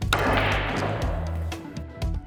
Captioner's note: ball cracking; light music